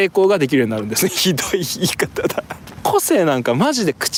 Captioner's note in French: rires